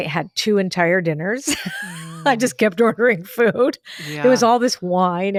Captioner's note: laughs